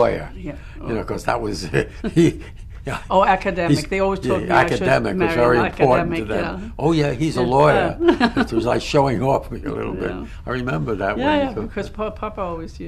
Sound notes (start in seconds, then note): 1.7 laughter; 7.2 laughs